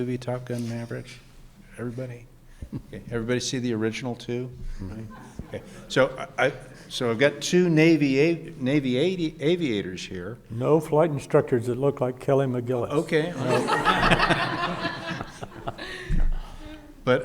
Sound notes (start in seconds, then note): 5.0 audience chuckling; 13.0 audience laughing